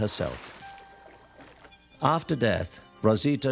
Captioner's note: water splashing